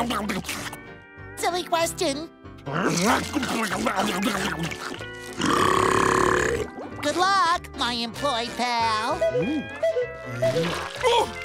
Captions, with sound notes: [scarfing] Silly question. [scarfing] [burping] Good luck, my employed pal. [beeping]